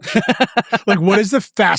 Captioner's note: laughs